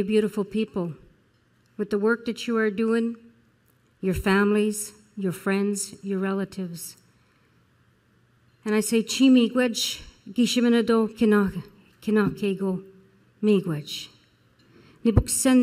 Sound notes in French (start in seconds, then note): 9.8 Parlant Anishinaabe